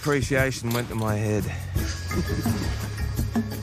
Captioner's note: laughs